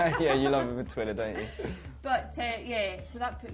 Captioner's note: laughs